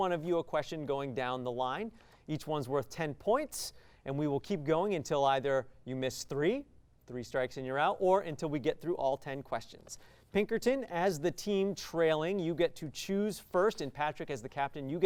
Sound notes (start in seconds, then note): none